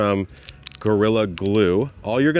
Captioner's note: package crinkles